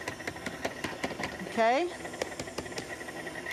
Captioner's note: tapping the mixer